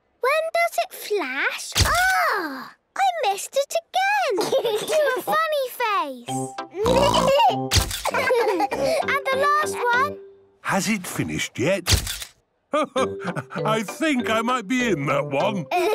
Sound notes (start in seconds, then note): 1.8 camera clicks; 4.3 giggling; 8.0 all laughing; 11.9 camera clicks